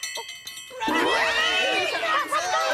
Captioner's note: shouting